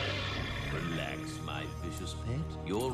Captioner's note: snarls